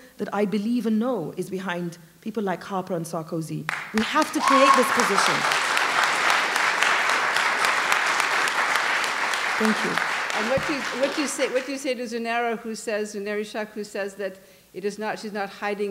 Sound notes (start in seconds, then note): 6.4 applause